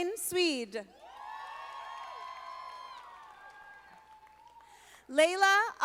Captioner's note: audience applauding